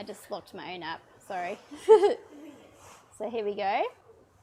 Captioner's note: chuckles